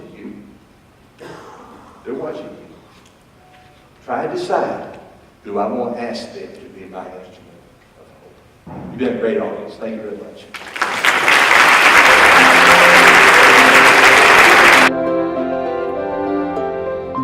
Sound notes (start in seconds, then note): 10.5 applause